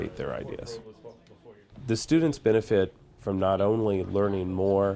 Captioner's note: none